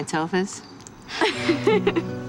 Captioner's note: laughing